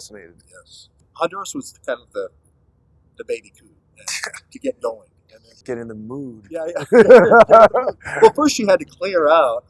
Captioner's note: laughter